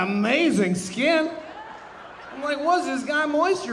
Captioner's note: audience laughing